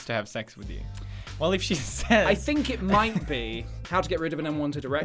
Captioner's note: giggle